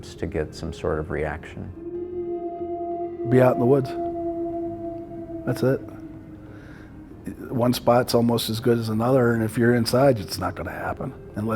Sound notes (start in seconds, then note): 1.8 creature howling